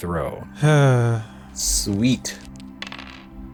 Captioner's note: exacerbated sigh